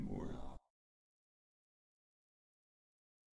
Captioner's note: long silence